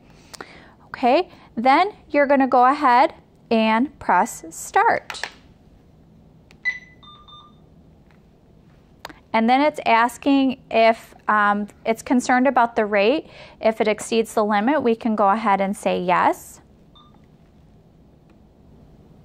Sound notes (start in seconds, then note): 6.6 beeping